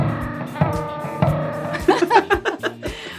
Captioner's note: laugh